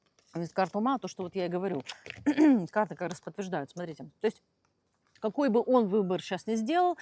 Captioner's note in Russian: откашливается